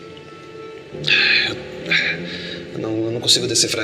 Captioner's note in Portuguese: suspiros